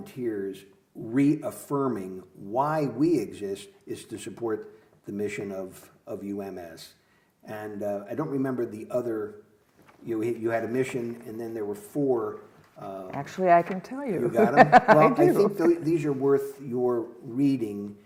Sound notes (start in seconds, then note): 14.2 laughs